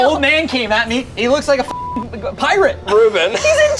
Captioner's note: beep